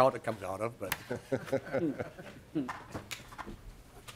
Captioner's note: laughter